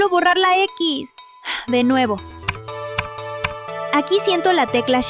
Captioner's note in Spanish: tecleos